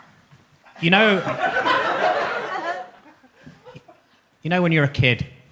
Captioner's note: audience laughs